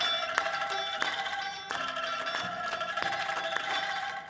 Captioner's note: performers clapping